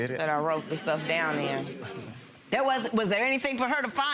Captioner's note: audience chuckles